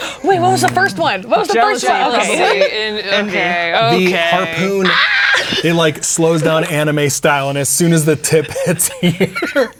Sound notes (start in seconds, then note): 4.9 exclaims